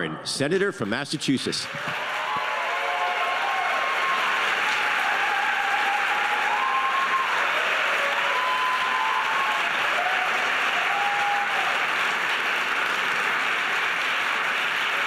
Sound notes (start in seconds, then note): 1.8 audience cheering